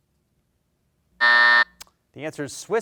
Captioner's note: buzzer sounds